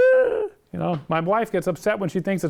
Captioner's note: high pitched gasp